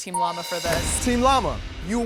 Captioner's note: pleasant dings